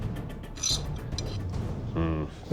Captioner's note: loud scrape